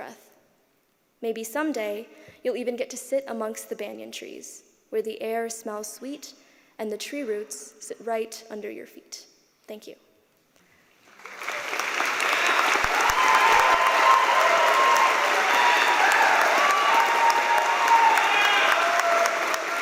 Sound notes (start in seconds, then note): 13.5 applause; 13.9 cheers and applause